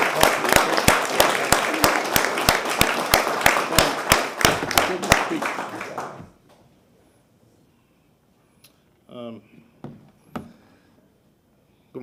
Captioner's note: applause